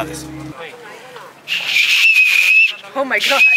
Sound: vendor speaking in foreign language; rock whistling

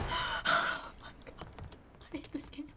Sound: whispers

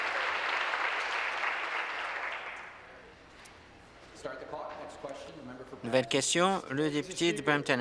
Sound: applause

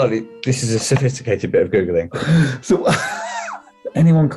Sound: laughing

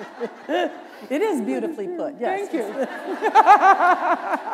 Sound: laughter

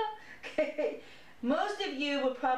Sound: laughter

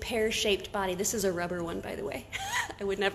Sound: laughs

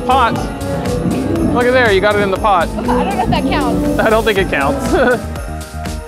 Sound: laughs

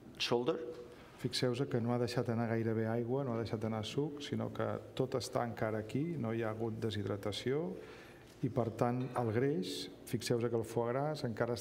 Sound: speaking catalan

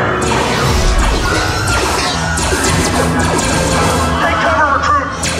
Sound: laser blaster noises'

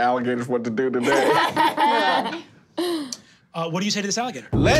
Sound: laughing

